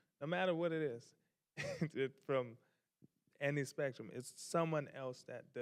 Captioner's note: chuckles